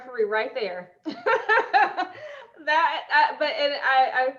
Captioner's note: laughing